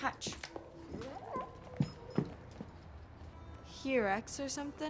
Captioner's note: footsteps thumping